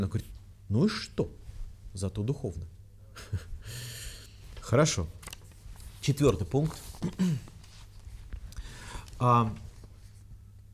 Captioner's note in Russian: смех; откашливается